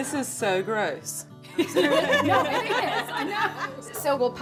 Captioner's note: laughing